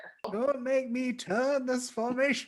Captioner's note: old man voice